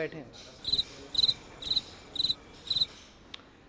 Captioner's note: cricket chirps